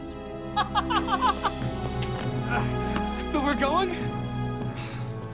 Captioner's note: laughs